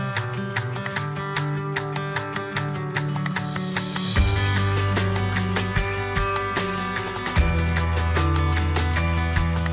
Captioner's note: Plojimai